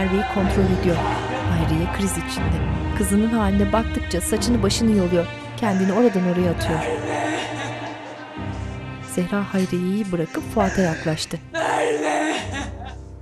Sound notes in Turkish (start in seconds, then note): 0.0 Ağlama sesi